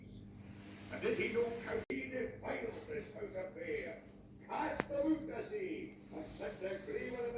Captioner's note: voice recording playing